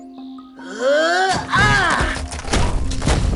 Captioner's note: Natalia grunts